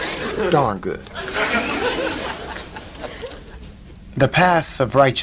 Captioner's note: audience laughs